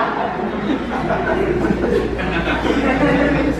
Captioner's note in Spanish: risas